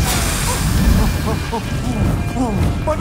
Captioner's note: Roktaroka puffing